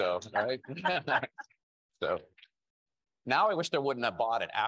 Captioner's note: panelists laughing